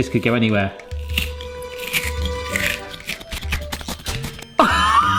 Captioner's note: tomato flesh scraping; chuckling